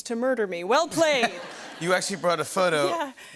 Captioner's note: laughter